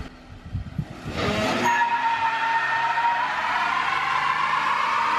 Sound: tires squealing

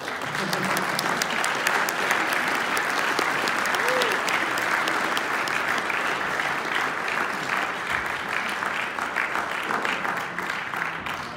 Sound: applause

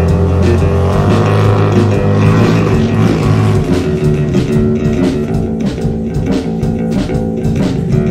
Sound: annoying loud revving of a motorcycle

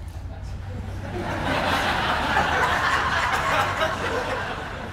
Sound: audience laughing

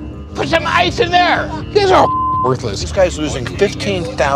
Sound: beep

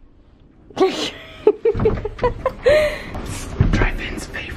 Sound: laughing

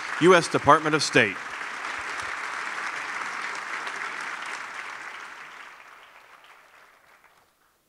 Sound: applause

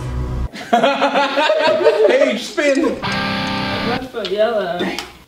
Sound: laughs

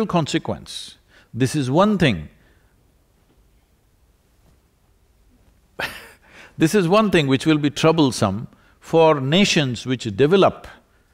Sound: laughs

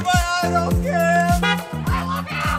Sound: honk

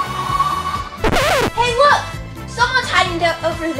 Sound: elastic boings; car wheels accelerating; record scratch

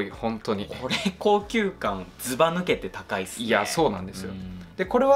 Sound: laughs

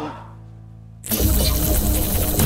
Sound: loud buzzing

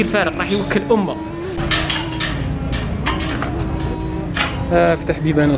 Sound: door sound

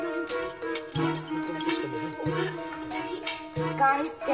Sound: indistinct chatter

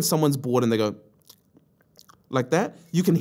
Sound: tongue smacking

